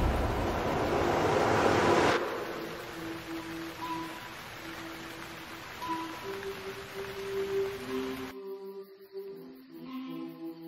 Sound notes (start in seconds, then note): 0.0 foreboding music intensifying; 2.4 rain splattering